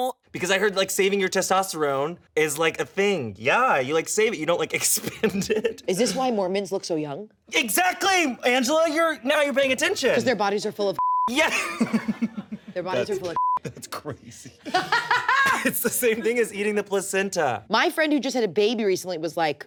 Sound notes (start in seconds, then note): 4.9 laughs; 11.0 beep; 11.4 laughs; 13.3 beep